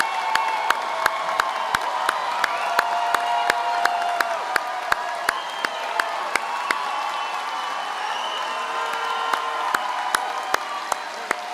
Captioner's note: applause